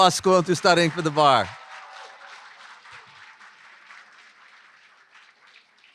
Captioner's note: applause